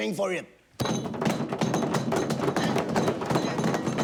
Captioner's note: hands bang